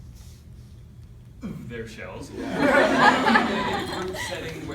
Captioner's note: laughter